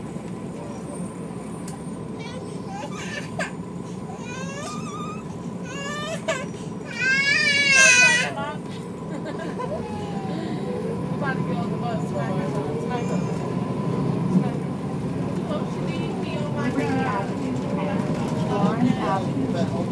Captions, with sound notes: (boy crying) Liberty Avenue and Florence Avenue